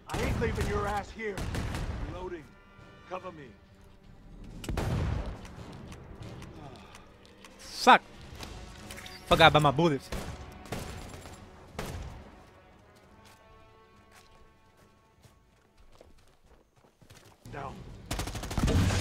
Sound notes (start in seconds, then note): 10.0 guns firing